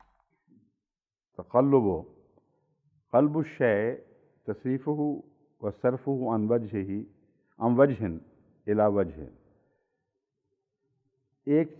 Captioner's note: Arabic